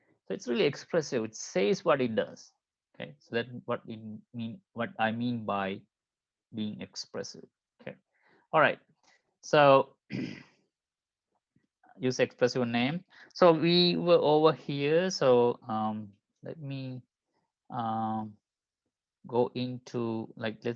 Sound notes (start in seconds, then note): 10.1 clears throat